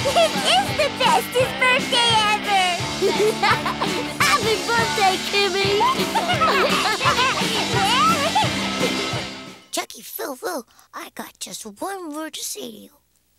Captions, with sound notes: This is the bestest birthday ever! [laughing] Happy birthday, Kimi! [laughing] Chucky, Phil, Lil, I got just one word to say to you.